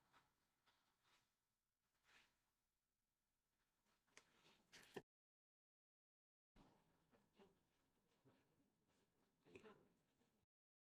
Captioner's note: silence